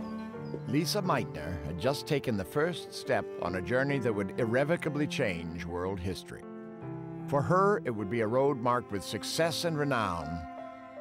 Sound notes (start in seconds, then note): none